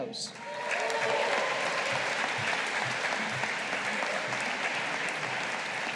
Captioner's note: audience applauding